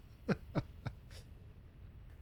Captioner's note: laughs